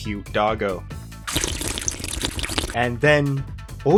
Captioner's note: sluuuurp